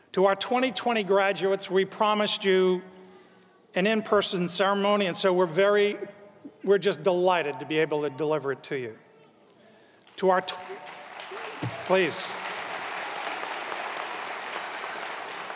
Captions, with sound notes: To our 2020 graduates we promised you an in-person ceremony. And so we're just delighted to be able to deliver it to you. (crowd applauds) Please.